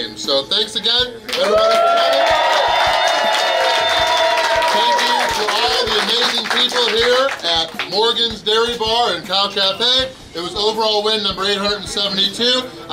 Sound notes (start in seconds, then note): 1.2 cheering & Clapping